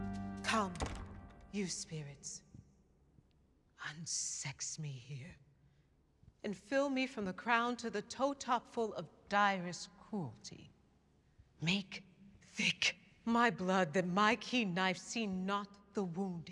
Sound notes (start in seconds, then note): none